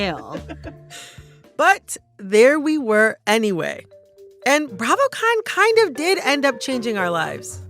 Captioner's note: laughter